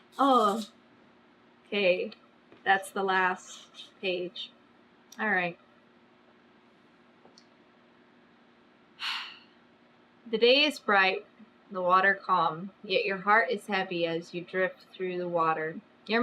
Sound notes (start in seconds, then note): 9.0 exhales loudly